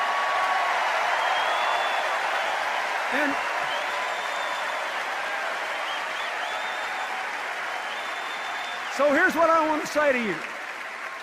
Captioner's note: sustained applause and cheers